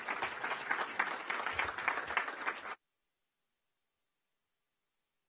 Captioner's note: applause